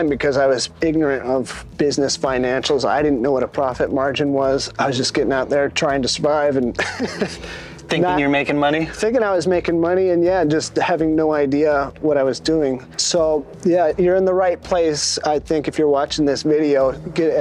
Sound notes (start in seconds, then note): 6.7 laughs